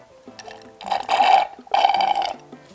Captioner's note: slurping